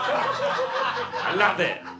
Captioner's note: audience laughter